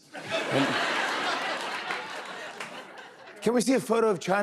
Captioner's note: laughter